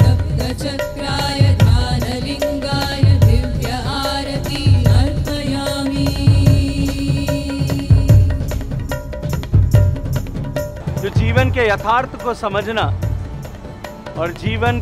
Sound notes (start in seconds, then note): 3.2 speaks in Hindi – not transcribed